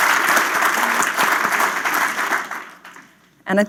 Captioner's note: applause